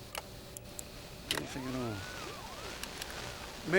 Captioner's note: static Continues